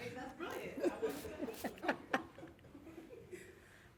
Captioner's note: laughing